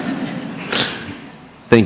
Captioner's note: laughter